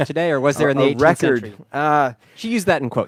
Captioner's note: laughing